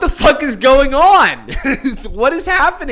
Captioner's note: chuckles